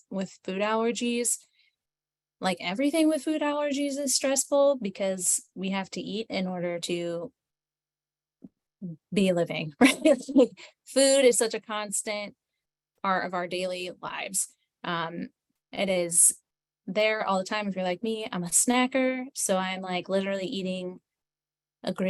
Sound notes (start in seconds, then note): 9.7 laughs